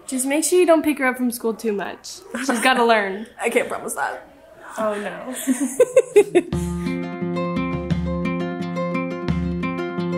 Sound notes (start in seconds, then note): 5.2 laughs; 6.2 soft acoustic music